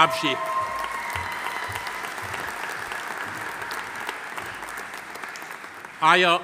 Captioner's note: audience cheering; audience applauding